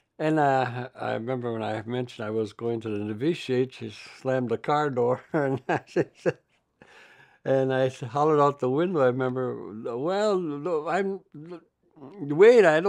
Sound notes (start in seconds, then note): 5.0 laughs